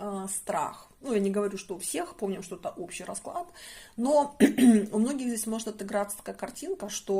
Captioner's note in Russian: откашливается